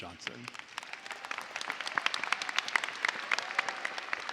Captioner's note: cheers and applause